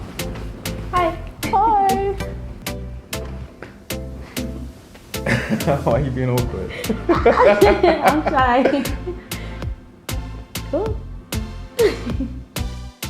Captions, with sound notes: - Hi - Hey - (laughs)Why you being awkward (laughing) - I'm shy. (upbeat music)